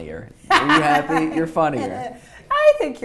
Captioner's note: laughs